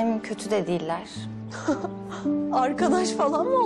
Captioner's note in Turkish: Gülme